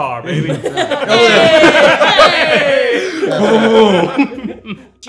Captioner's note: everyone laughing